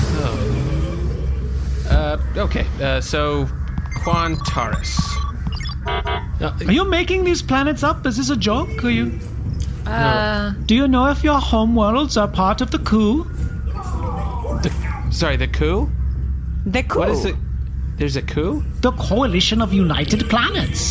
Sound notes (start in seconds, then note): 3.6 typing, beeping